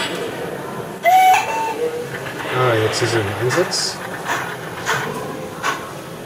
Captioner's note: whistle